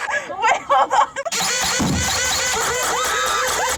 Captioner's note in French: la pompe grince; le voleur rit